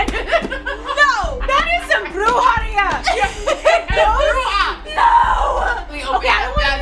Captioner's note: laughter